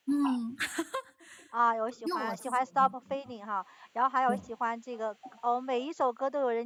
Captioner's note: laughs